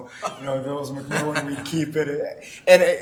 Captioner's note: laughing